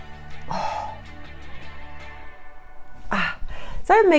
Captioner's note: exhales